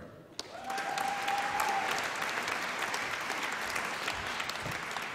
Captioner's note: applause and cheering